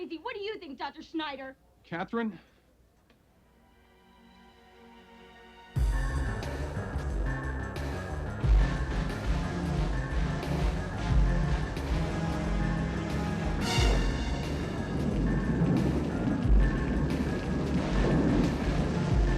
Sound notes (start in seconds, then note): 3.6 soft dramatic music; 5.9 tense music; 13.8 rain pattering; 13.8 thunder rumbling